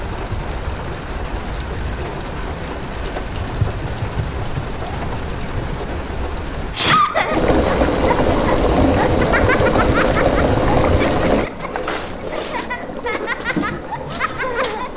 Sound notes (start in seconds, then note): 6.8 children laughing